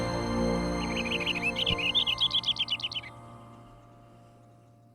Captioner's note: birds chirping